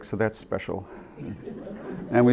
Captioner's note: laughter